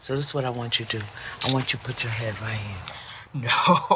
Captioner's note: chuckling